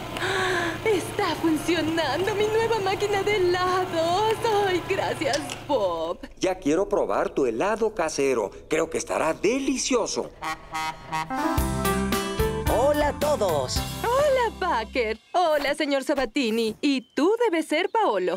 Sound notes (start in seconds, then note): 10.4 horn Honks